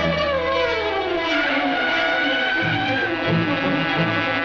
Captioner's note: tires screeching